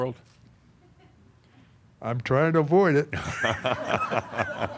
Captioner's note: laughter